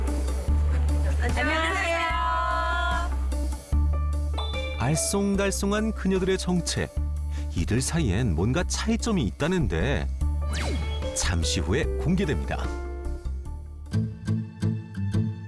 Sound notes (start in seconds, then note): 3.5 voiceover